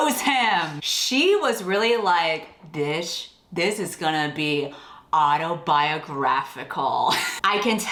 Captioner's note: laughs